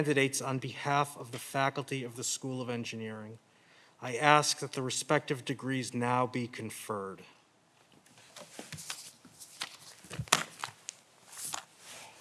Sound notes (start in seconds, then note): 7.9 papers rustling